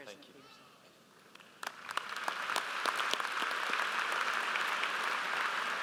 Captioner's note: audience applauds